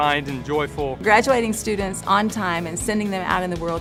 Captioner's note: voiceover